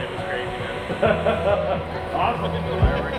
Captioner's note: laughter